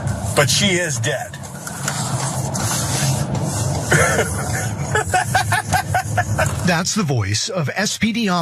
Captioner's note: laugh